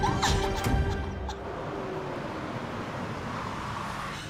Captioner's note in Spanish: Ruido del vehículo